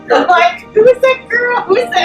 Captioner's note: laughing